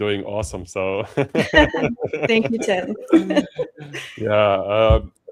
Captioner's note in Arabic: ضحك